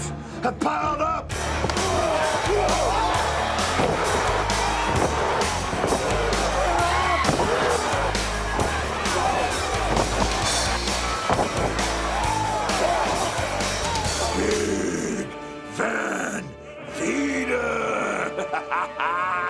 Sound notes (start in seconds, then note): 5.1 crowd cheering